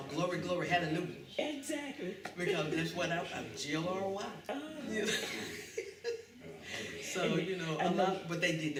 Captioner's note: laughter